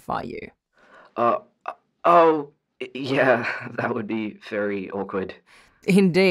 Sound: laughs lightly

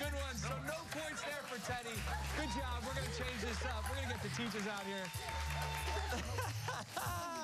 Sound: laughter

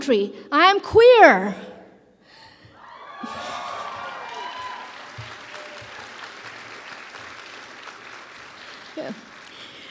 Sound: applause

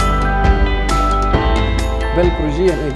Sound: non-english speech

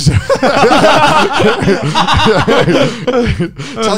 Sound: everyone laughs

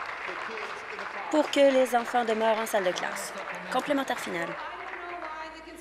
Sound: applause

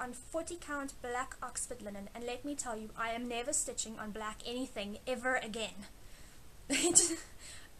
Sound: laugh

